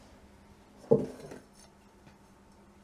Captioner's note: dull thunk